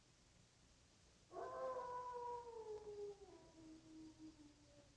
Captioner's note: wolf howling